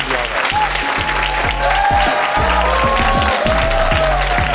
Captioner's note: audience cheering; upbeat music